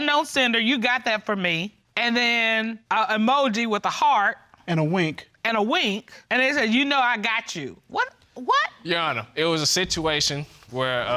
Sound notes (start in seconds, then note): none